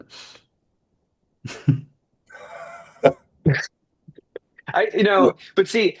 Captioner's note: laughs